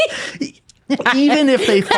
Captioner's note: laughing